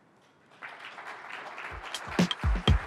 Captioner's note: applause